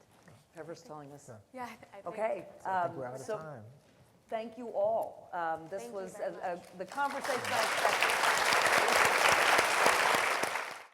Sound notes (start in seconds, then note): 7.1 loud applause